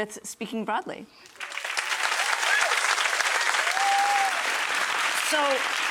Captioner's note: audience applauding